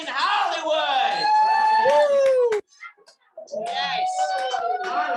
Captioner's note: audience cheering